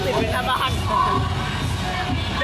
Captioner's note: laugh